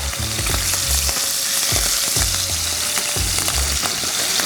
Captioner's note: oil sizzling